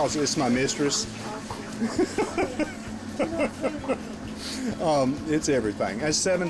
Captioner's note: laughing